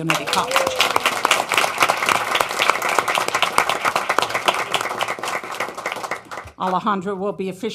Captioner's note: applause